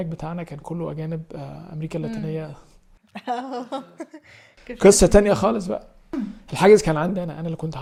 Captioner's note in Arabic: ضحك